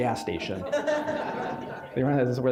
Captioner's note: audience laughing